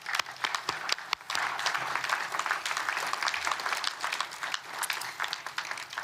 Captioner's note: applause